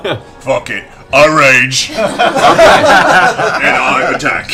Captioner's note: laughter